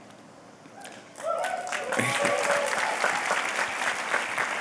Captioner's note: cheers and applause